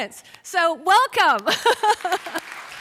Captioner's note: laughs; applause